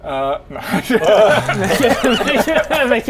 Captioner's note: laughs in chicken